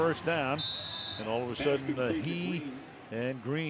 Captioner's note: whistle